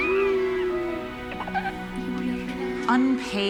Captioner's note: laughter; cooing